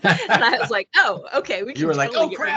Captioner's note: laughing